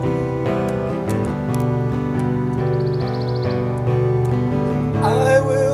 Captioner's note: keyboard clacking, birds chirping, wheat rustling